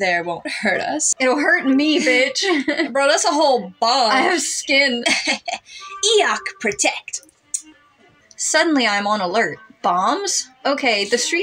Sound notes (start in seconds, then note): 0.5 laugh; 1.3 chuckle